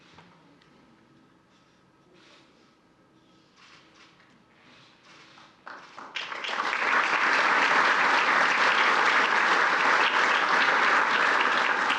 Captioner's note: applause